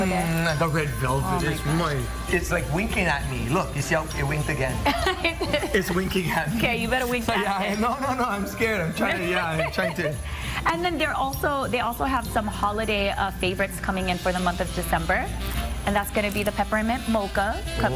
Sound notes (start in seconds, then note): 10.4 laughs